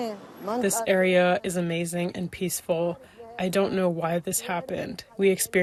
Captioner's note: through translator